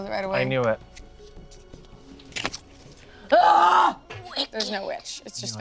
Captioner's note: groans